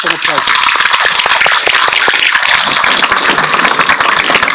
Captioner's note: audience applauding